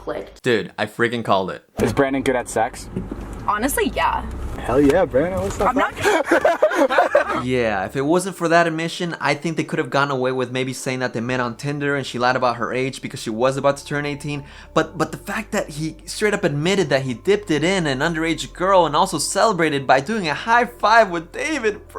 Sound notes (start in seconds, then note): 5.6 laughs